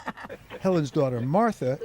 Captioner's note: laughter